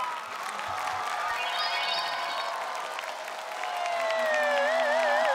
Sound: screaming!

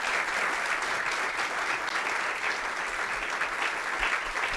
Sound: applause

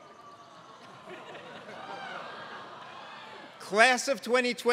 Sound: laugh

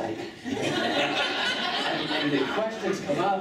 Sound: laughing

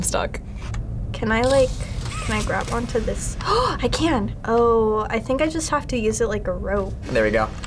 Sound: gasps

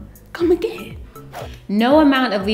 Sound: whoosh

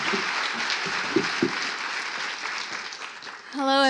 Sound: applause

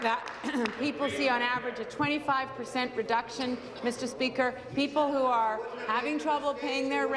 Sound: applause

